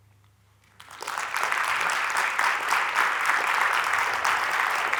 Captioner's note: applause